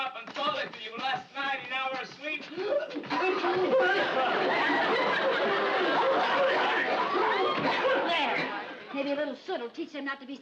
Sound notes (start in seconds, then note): 2.5 Ricky and Fred coughing; 2.5 audience laughs